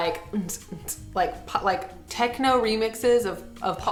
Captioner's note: imitating upbeat music